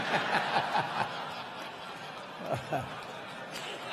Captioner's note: crowd laughing